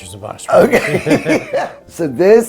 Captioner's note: laughs